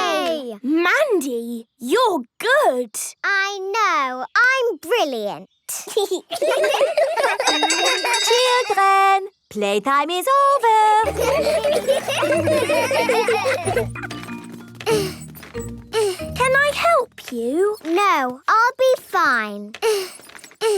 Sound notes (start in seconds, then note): 5.8 laughter; 5.9 giggling; 11.0 laughter; 13.3 grunting; 19.4 grunting